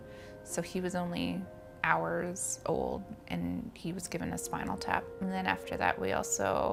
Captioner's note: none